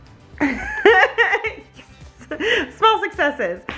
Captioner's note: laughs